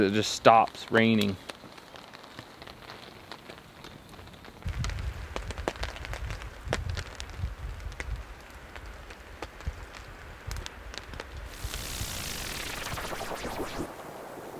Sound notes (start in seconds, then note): 11.5 whooshing